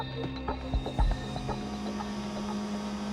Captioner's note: machine buzzing